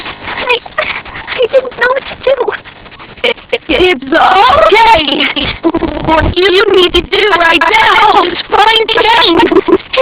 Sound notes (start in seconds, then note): 0.5 whimpers; 3.0 glitching continues